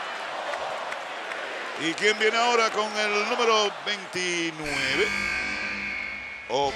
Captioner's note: applause